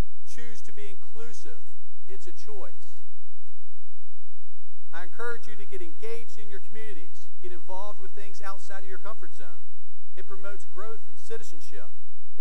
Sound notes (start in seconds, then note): none